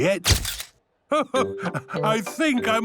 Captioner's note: camera clicks